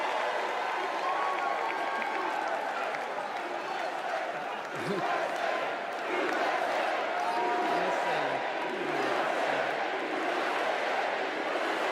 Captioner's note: cheers and applause; crowd chants "u.s.a."